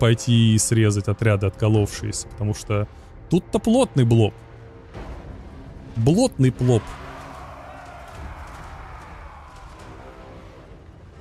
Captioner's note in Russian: крик